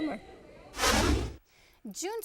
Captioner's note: whooshing